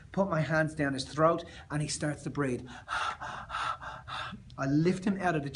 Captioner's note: pant, pant